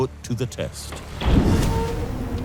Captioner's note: hard impact and metal grinding